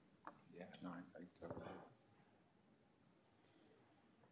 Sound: speaking faintly

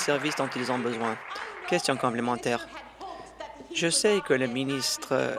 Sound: applause

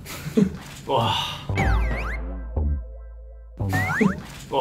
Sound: boo

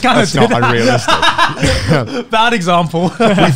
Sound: everyone laughs

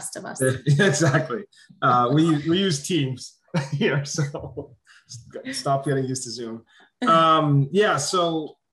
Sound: laugh

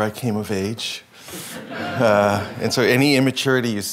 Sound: laughing

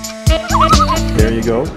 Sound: loon call

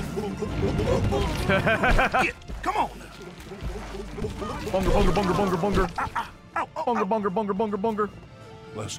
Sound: laughs

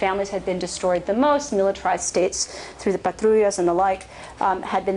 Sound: spanish

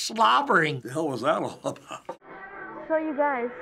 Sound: chuckles

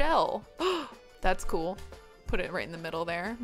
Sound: gasps

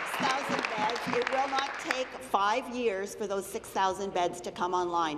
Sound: applause

